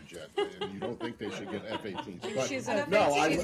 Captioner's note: laughter